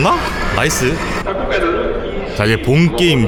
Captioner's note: announcement announcing the start of the game